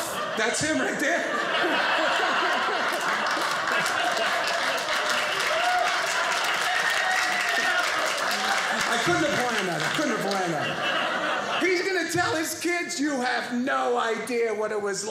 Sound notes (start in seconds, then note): 1.3 audience laughing; 3.6 audience cheering